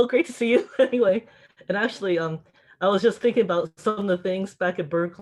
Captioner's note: chuckles